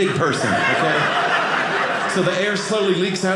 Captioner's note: audience laughing